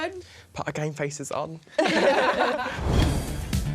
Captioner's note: laughter; upbeat music